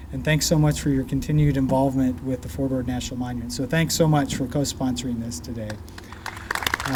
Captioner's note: clapping